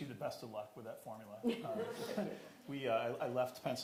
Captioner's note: audience laughing